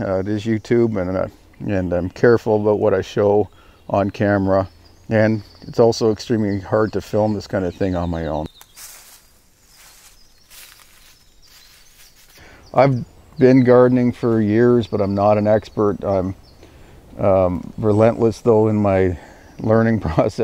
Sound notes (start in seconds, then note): 8.7 birds chirping